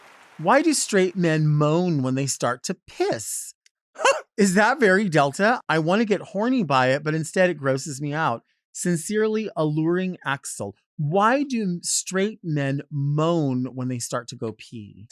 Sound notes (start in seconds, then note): 4.0 laughs